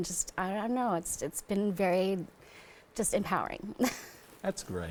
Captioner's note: laughs